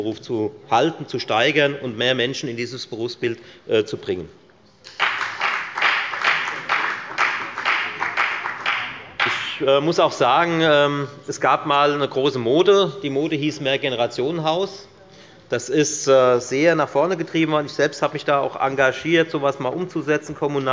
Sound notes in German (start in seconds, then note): 4.8 Beifall bei der FDP